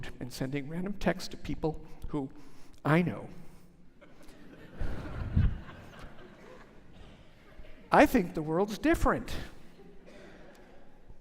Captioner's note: laughter